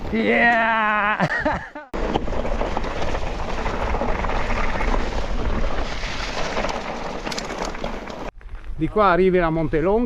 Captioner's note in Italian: risate